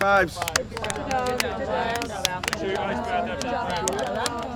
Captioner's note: in Unison